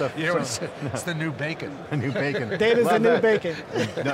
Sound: laughs

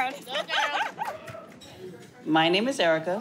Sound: laughing

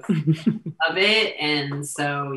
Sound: laughing

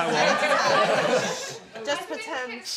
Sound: laughter

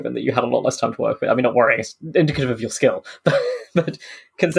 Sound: laughs

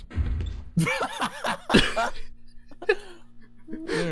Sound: laughter

